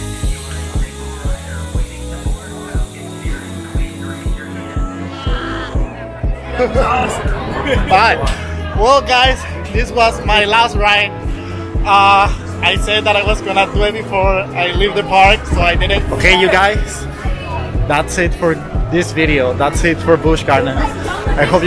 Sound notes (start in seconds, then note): 5.0 laughs